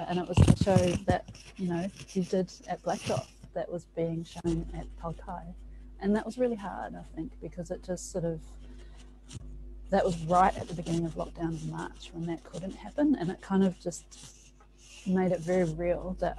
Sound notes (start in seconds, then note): 2.6 static interference